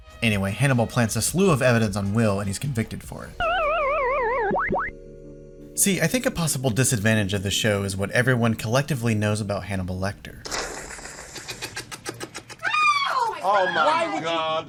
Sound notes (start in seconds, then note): 3.4 game over noise; 10.4 slurping; 10.4 slurping parody